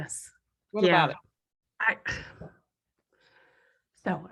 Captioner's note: sigh